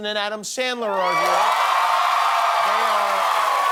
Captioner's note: applause